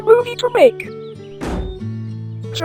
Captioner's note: slam